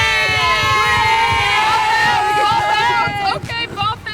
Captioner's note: shouting